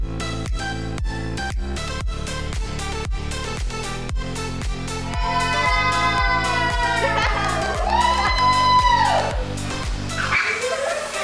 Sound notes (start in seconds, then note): 5.3 audience cheering, models laughing